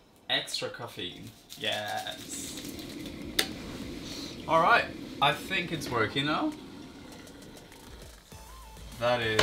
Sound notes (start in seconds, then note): 3.0 coffee pot gurgles; 8.3 coffee trickles